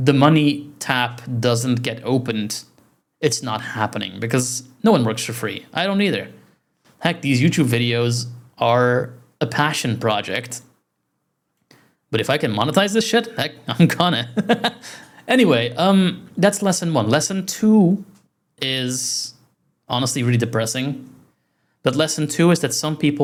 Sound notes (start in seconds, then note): 11.7 self-deprecating laugh of infinite nihilism